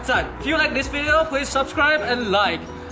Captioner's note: English